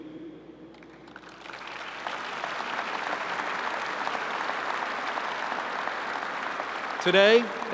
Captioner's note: applause